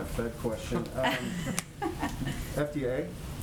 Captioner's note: laughter